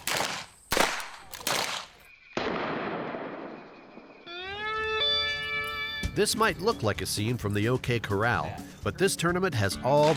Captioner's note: gunshots